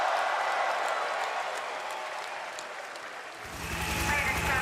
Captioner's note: crowd cheering